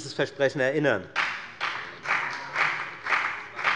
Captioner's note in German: Beifall bei der FDP